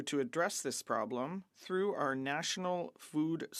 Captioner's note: speaking French